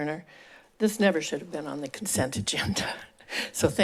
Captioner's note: laugh